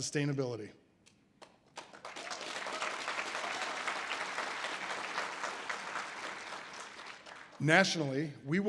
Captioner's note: audience applause